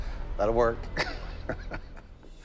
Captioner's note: laughs